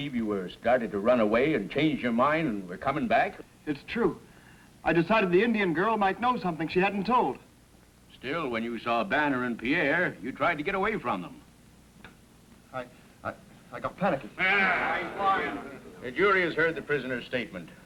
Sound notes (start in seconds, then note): 14.3 men murmuring